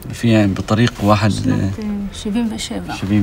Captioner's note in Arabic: يتكلم بلغة أجنبية